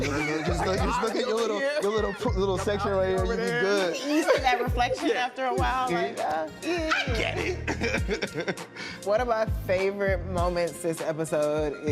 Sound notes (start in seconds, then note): 6.5 winces; 6.9 chuckles